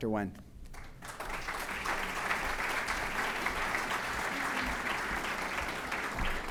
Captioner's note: applause